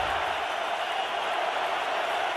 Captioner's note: crowd cheering